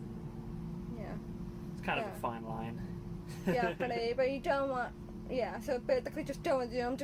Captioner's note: laughs